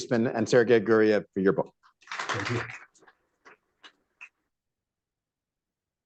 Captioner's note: applause